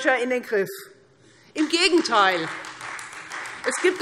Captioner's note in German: Beifall Freie Demokraten